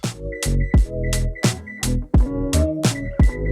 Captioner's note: old crusty oven beeps